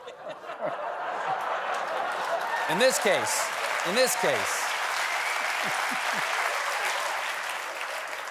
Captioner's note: laughter; applause